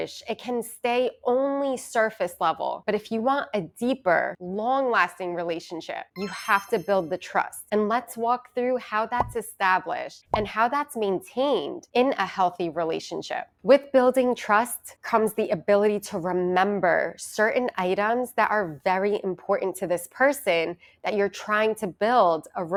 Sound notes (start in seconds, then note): 6.1 chimes ringing